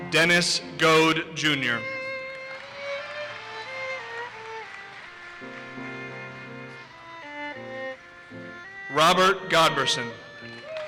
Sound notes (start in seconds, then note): 2.2 audience cheers and applauses; 10.5 audience cheers and applauses